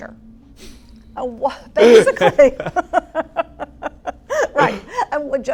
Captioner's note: laugh